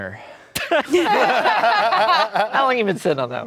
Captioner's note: everyone laughing